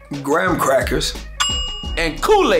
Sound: bell sound

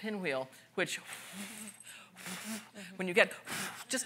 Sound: blows

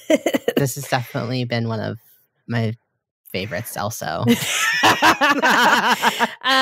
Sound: both laughing

